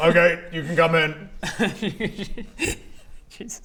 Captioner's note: traumatised laugh